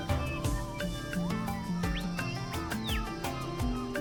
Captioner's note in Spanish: pájaros trinando